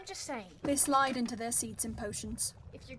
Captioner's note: chairs move